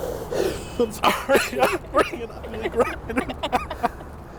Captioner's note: laughing